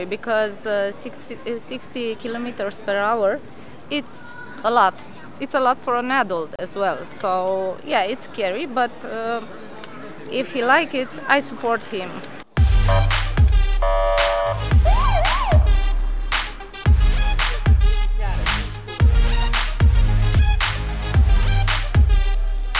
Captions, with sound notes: because 60 kilometres per hour, it's a lot. It's a lot for an adult as well. So yeah, it's scary. But if he like it, I support him. (high-energy music) (siren blaring)